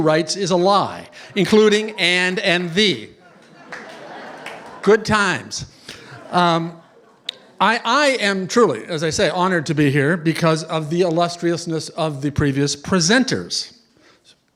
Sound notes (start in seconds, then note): 3.2 laughter